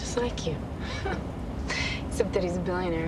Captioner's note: chuckles